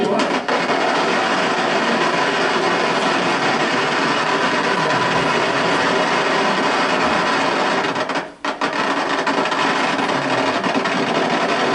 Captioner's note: firecracker explosions